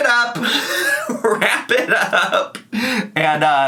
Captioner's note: laughing